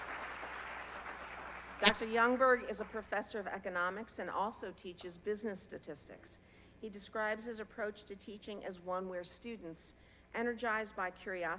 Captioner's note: applause